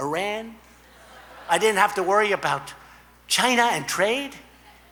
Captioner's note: laughter